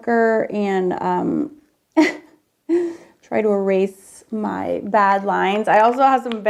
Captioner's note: laughs